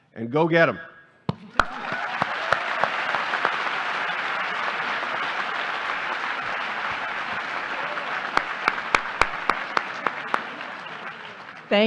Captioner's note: applause